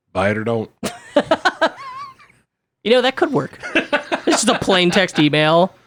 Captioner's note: laughs